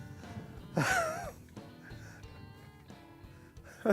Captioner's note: laughs